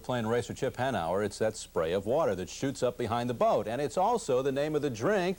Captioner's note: none